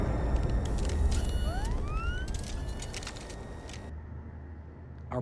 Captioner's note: dramatic music; robot whirring mechanically